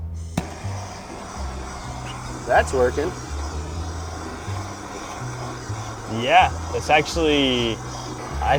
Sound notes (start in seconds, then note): 0.5 blow torch gas blaring